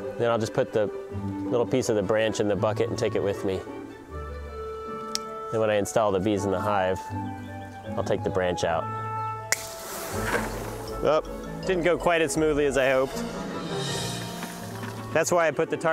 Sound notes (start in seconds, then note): 5.1 lighthearted music; 9.5 branch snaps